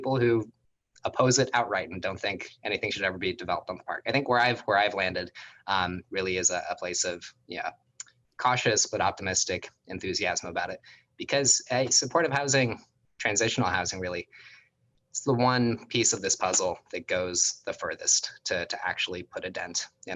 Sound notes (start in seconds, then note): none